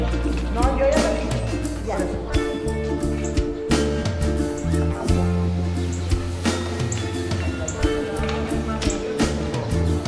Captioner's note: birds